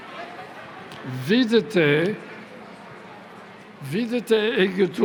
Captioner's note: speaking latin